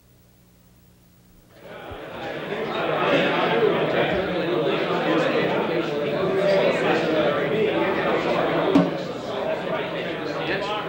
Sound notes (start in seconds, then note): 1.0 group murmuring